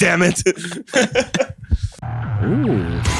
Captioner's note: laughter